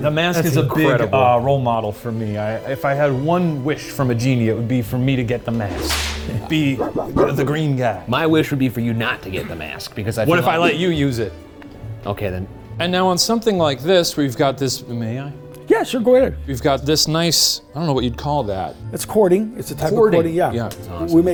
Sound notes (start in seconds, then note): 5.7 whip cracking